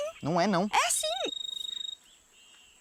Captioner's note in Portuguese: Celular tocando